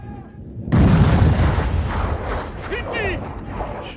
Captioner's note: boom!